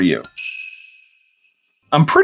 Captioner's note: sleigh bells